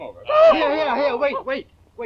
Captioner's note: Sykes whimpering